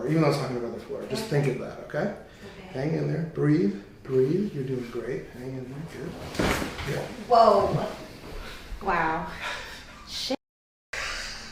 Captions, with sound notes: even though it's not gonna go to the floor. Just think of that, okay? - Okay. - Hang in there, breathe. Breathe. You're doing great. Hang in there. Good. (joints cracking) - whoa. Wow.